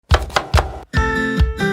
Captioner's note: upbeat music; knife tapping